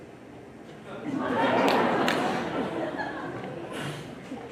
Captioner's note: audience laughs